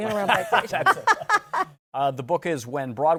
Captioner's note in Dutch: Laughs